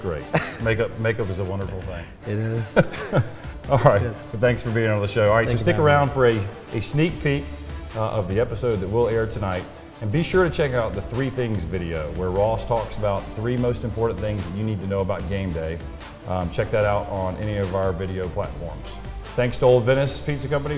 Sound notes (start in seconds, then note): 2.3 both laugh